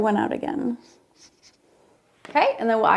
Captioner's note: marker scratching; marker clatters